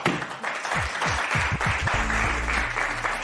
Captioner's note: applause